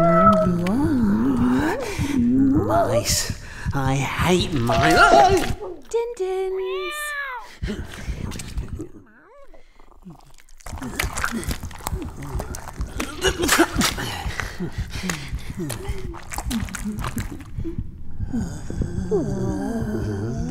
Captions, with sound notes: Yeah, you are. (cat meows) - Mice, I hate mi-- (yells) - Din-dins! (cat meows) (chewing) (coughs)